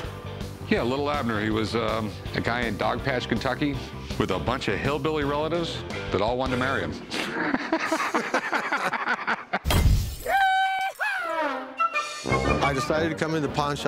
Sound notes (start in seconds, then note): 7.1 both laugh; 9.0 man shouts; 11.0 comical music